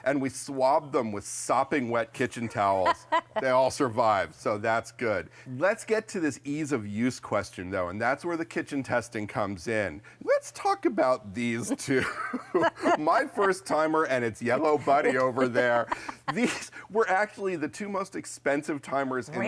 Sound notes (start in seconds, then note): 2.2 laughs; 11.7 laughs